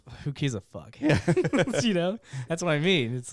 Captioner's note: laughing